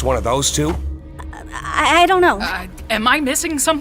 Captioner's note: stammers